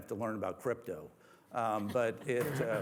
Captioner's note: laughter